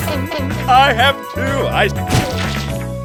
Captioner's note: splat